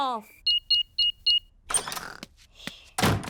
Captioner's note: beeping